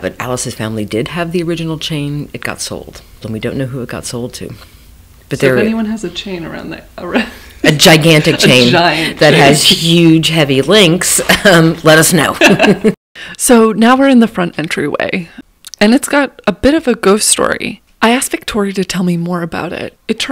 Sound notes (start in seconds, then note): 7.1 laughs; 12.3 chuckles